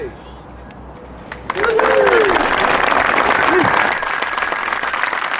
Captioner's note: audience applauding